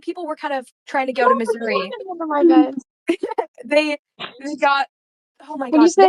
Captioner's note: chatter